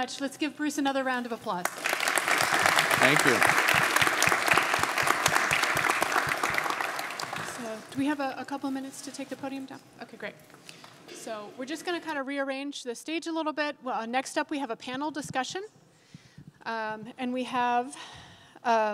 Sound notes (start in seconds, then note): 1.6 audience applauding